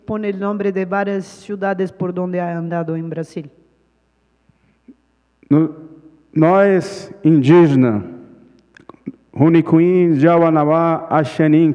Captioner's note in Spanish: Ponente habla en portugués